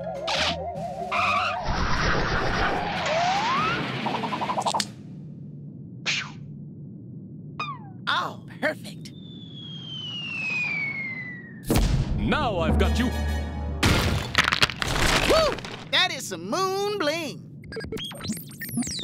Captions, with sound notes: (skidding) (buckle clicks) OH, PERFECT. (falling object whistling) (thuds) NOW I'VE GOT YOU! (boulder crumbles) WHOO! THAT IS SOME MOON BLING! (rover beeping)